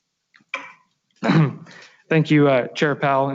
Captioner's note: clears throat